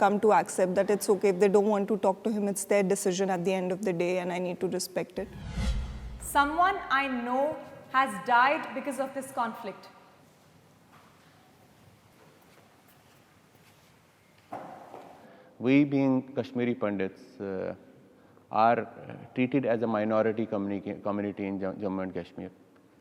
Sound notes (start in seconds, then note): 12.8 footstep thudding